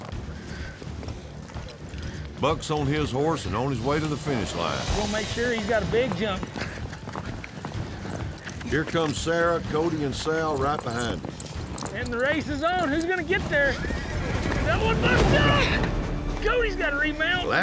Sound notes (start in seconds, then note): 10.7 hoofbeats; 13.4 horse neighs wildly; 14.1 thud